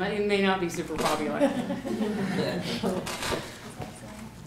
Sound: laughter

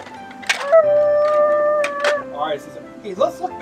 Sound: mimics crane whirring

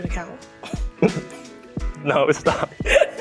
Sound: both chuckle; both laughing

